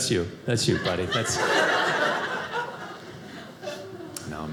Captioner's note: audience laughing